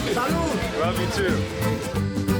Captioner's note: speaking in foreign language